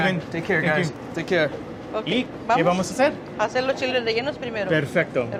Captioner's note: speaking in foreign language